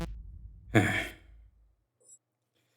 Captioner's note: sigh